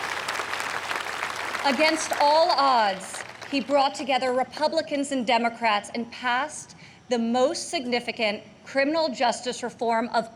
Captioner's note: applause